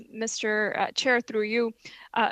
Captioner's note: speaking French